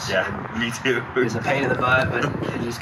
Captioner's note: laughter